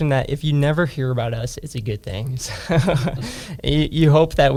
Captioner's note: laughs